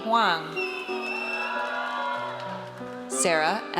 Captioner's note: audience cheers